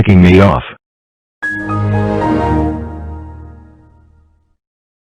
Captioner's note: Windows XP Shutdown